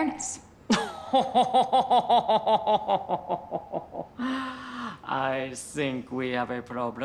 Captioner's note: laughing